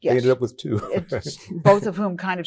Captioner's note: laughs